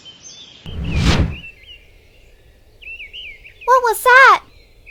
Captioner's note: wind whooshing